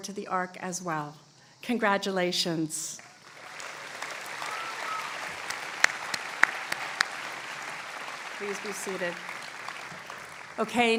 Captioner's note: applause